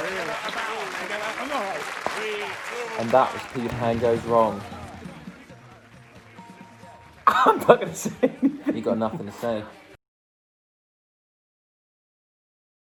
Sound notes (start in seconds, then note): 0.0 applause; 7.2 laughs